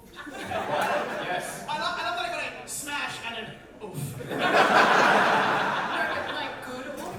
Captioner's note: audience laughter